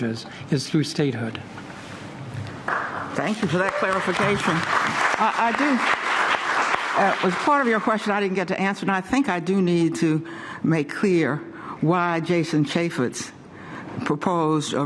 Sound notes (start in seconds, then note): 7.1 applause